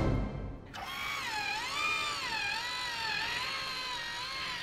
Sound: antenna winding

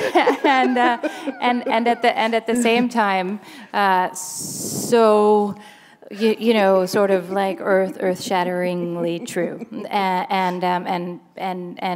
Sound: chuckle

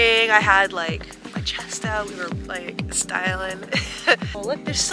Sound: laughs

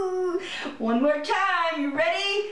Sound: giggling

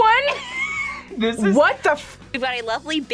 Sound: laughs

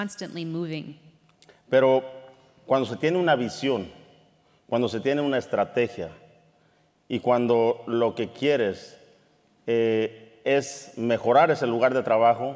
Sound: speaking in Spanish

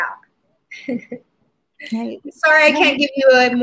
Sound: laughs

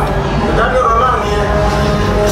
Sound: Nien Nunb in native language

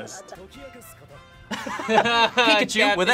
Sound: both laugh

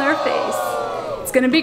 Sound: crowd booing

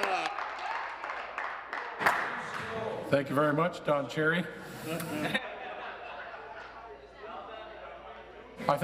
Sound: applause

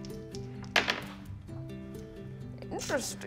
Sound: dice tap table

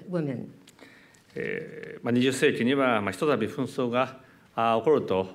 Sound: speaking japanese

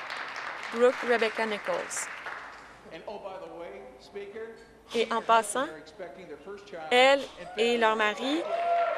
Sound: applause

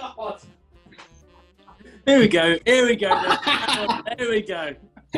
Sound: laughing

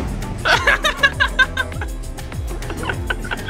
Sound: laughs

